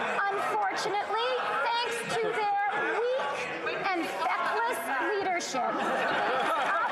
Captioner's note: some Laughter